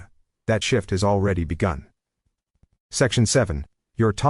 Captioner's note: long pause